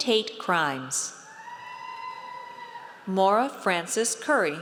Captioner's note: audience cheers